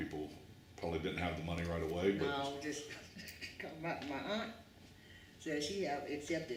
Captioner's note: laughs